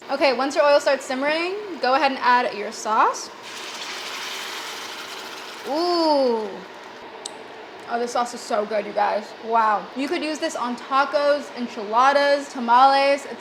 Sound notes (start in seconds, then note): 3.7 pan sizzling